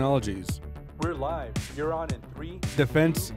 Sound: male Voice

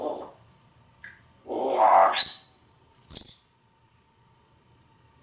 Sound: whistling

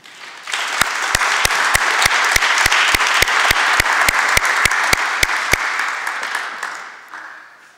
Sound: applause

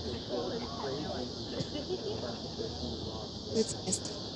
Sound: crickets chirping

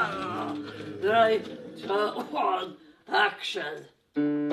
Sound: coughs

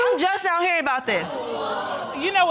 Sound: audience exclaiming

